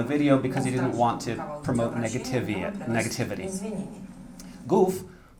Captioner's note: speaking russian